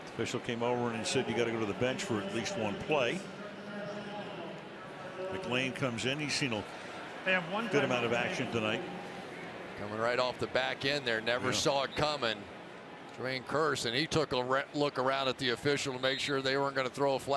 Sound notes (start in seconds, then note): 3.8 pa announcement